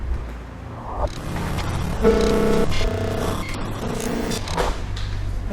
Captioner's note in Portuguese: Extremamente pesada distorção de áudio